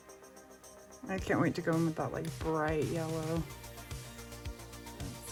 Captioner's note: none